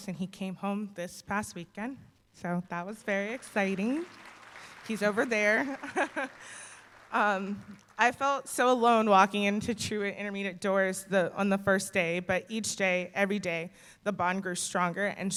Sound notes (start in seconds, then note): 3.0 applause; 5.4 chuckles